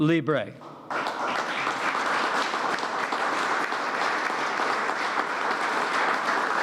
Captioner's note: applause